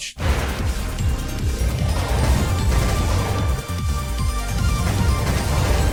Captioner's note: bright electronic music; lasers blasting